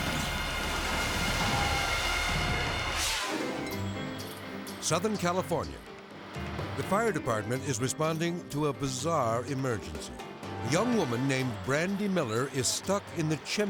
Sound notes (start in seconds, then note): 0.0 tense music; 2.5 graphics whooshing